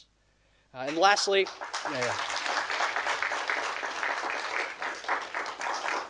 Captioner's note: audience applauding